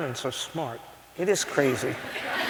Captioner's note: laughter